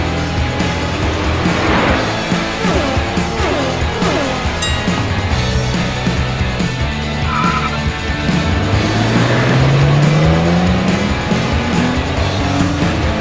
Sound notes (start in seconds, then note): 4.5 bell dinging